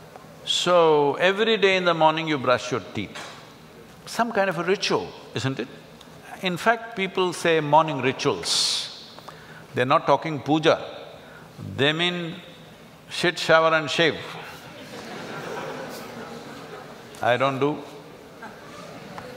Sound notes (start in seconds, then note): 14.7 laugh